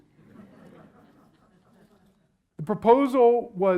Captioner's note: audience laughs